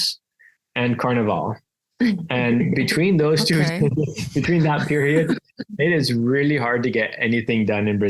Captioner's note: laugh